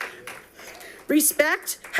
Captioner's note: audience applauding